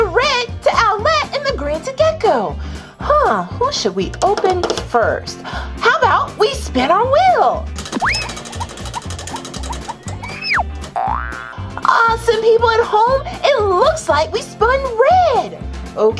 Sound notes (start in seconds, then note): 4.9 fingers tapping; 7.8 spinning, clacking; 11.0 spring boings